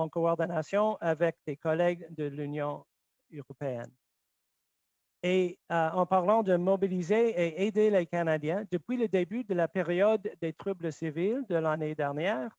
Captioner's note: speaking French